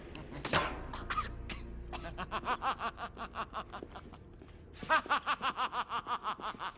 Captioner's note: laughing